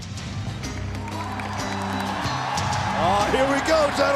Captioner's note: audience cheering